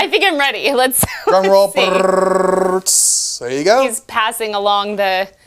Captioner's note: mimics Drum Roll